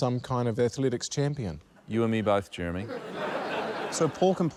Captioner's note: laughter